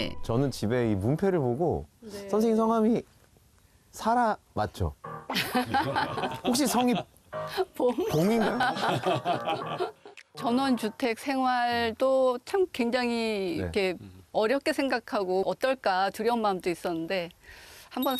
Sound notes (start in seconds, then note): 5.2 ㅎㅎㅎㅎㅎㅎㅎ